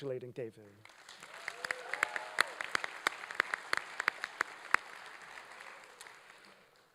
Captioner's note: applause